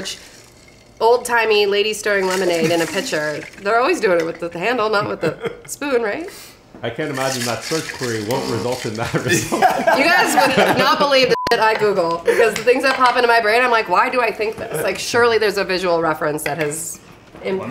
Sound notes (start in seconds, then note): 5.0 chuckles; 9.0 laughs; 11.3 beep